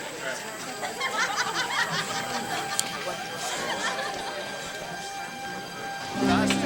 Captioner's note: laughter